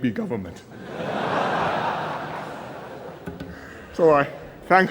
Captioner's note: laughter